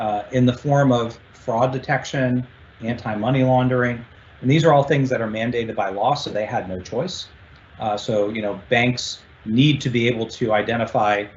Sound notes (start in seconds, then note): none